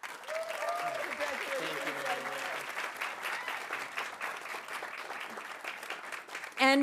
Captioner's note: audience cheering; audience applauding